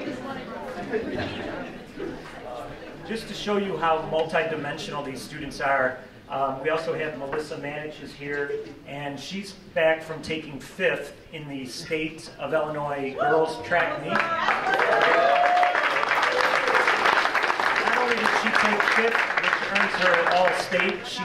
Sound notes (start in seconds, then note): 13.9 cheering